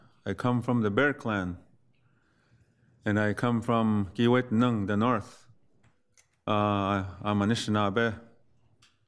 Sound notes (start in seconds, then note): 0.0 speaks foreign language; 3.9 speaks foreign language